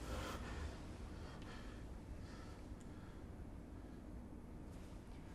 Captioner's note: breathing hard